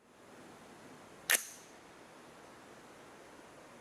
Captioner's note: gun clicks